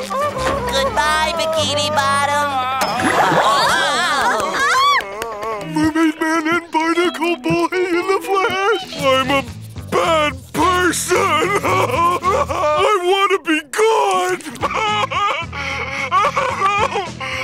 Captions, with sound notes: Good bye, Bikini Bottom! [squealing] Mermaid Man and Barnacle Boy in the flesh. I'm a bad person. [crying] I want to be good! [crying]